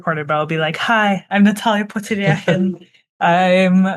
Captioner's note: laughs